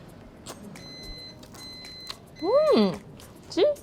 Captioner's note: oven beeps